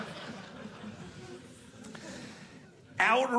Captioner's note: audience laughing